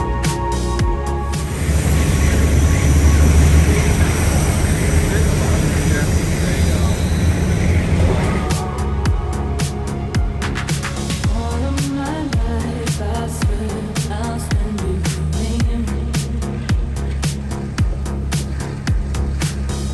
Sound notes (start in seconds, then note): 6.7 boat engine roaring; 6.7 wind blowing